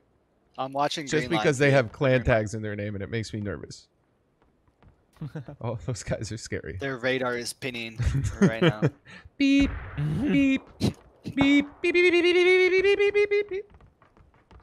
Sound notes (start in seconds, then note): 5.2 laughing